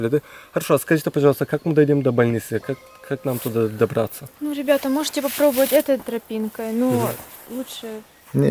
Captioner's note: conversations in Russian